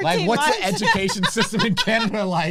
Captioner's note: laughs